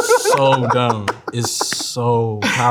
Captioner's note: laughing